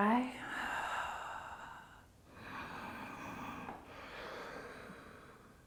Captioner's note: exhaling and inhaling